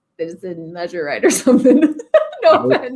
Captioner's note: laughing